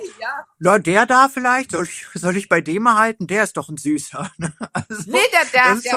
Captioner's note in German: gelächter